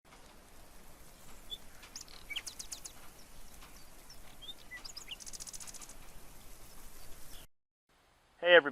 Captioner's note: nature Sounds